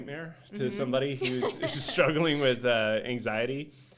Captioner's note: laughing